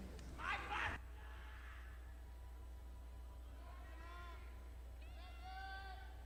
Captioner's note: audience speaking indistinctly